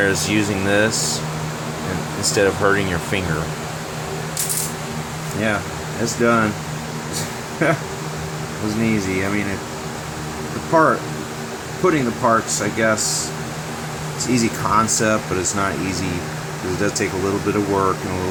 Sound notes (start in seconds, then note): 4.3 metal movement in background; 7.5 laughing